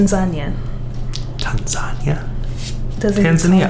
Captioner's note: whispered